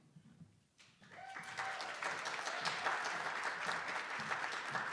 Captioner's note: attendees applauding